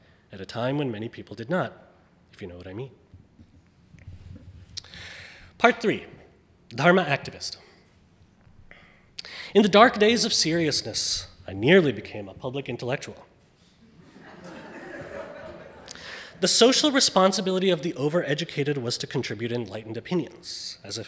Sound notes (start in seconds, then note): 5.1 speaks foreign language; 13.9 audience laughing